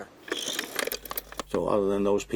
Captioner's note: object whirring